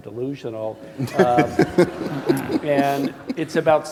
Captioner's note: laughter